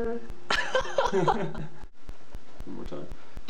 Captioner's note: laughs